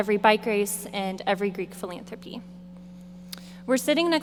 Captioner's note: none